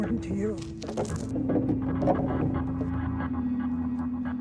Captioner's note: ball rolling